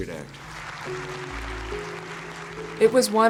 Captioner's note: audience clapping